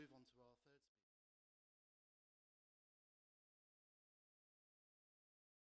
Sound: silence

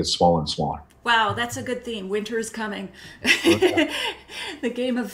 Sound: laughs

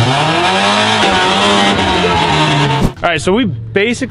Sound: engine revving

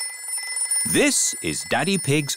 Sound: phone rings

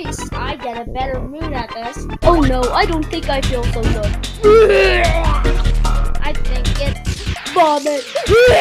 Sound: vomits

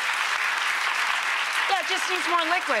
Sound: audience applauding

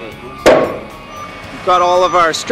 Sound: construction beeping

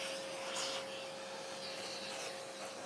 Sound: vacuum cleaner noises

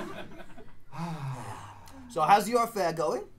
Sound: both: sigh

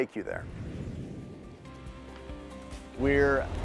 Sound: air whooshing; calming music

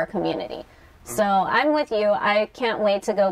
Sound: sounds of agreement

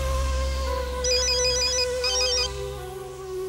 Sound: phone ringing

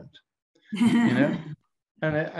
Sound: laughs

